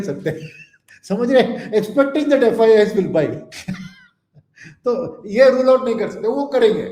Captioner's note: laughs